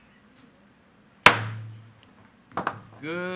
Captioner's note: gavel bangs